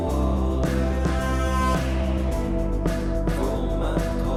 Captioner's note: horn honking